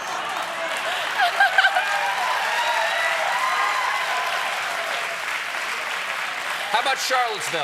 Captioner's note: laughter; applause